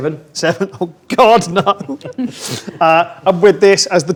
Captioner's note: laughs